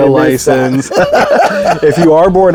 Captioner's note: laughing